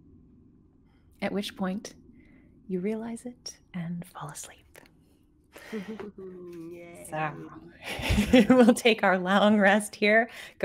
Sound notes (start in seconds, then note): 5.6 laughs